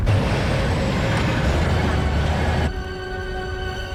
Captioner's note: tank rumbling